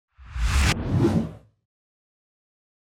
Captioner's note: title whooshes